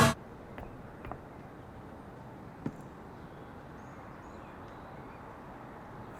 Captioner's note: birds chirping